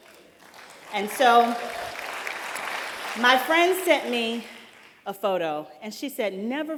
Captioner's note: applause